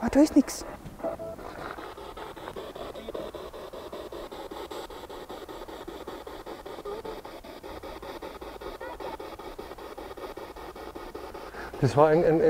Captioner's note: noise of the spiritbox in the background